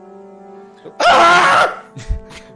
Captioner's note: shouts